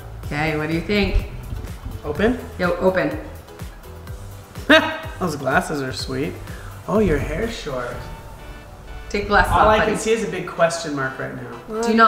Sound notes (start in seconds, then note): 4.7 laughs